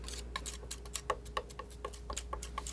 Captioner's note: scratching